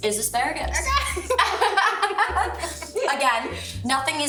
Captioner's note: girls laugh